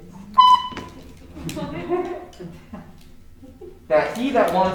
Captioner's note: horn tooting